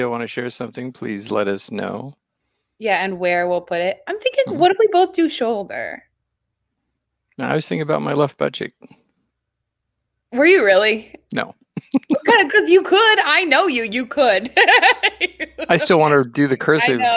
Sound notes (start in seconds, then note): 11.8 laughs; 14.4 laughs